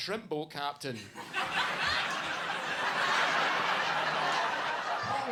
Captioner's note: audience laughs